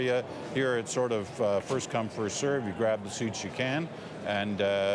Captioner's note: none